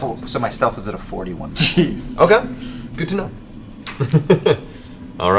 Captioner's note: laughs